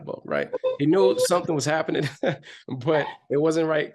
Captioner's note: chuckles